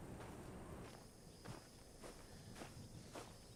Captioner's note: gravel crunching